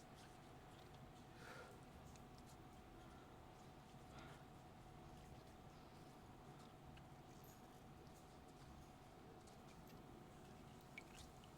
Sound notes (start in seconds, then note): none